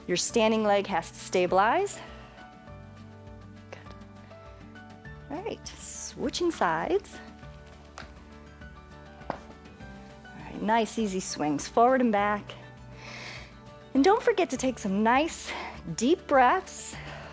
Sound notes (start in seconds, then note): 12.9 inhales